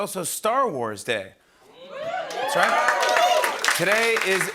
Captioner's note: cheering and applause